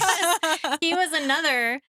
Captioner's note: laughs